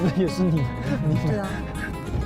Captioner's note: laughing hard